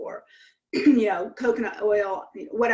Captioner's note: clears throat